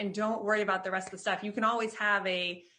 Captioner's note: claps